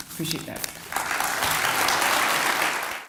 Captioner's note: applause